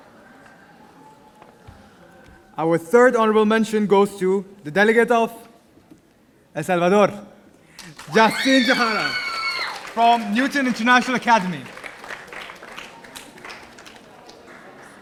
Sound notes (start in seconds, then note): 7.8 audience cheering; 11.7 audience applauding